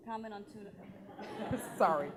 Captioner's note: laughing